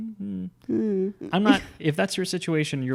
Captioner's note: makes uncomfortable noise